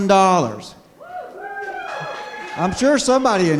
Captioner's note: cheering